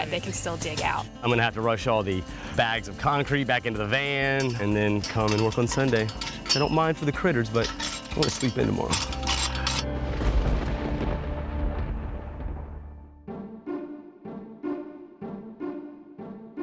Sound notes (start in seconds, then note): 10.0 thunder rumbles; 13.5 lively music